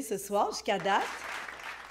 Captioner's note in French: applaudissements